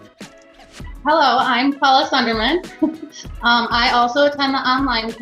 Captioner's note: chuckles